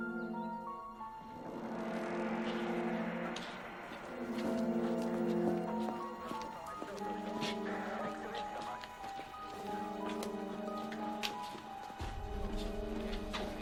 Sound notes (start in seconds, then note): 7.2 police radios buzzing